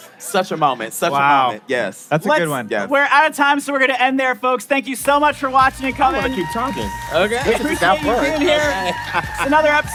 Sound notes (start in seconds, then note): 7.6 applauding; 7.9 laughing